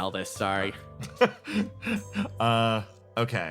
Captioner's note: laugh